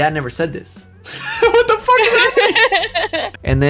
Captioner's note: laughs